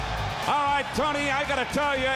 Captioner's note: crowd cheering